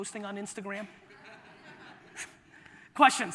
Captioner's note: audience laughter